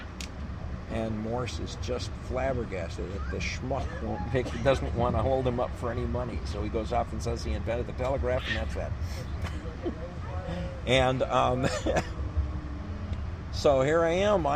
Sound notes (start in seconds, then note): 10.1 laughs